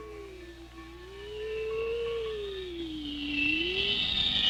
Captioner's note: rocket whistling